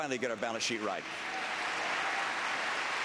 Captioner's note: applause